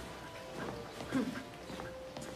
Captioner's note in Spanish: Carraspea